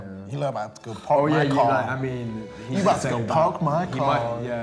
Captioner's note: group chatter